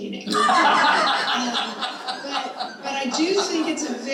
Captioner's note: all laughing